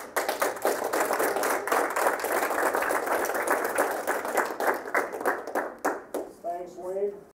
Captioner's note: applause